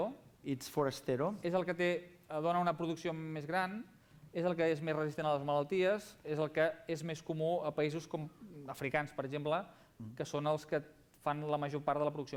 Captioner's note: non-english speech